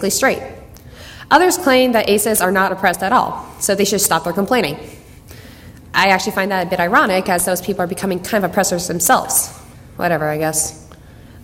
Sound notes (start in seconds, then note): none